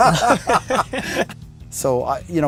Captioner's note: laughing